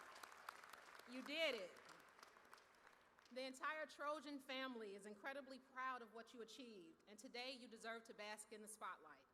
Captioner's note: cheers